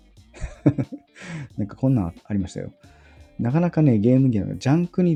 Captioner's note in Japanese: 笑い